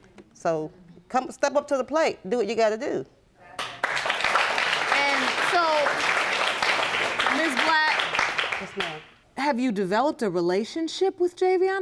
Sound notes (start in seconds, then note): 3.5 audience applauding